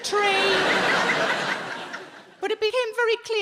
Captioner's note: audience laughing